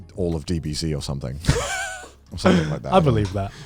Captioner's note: laughs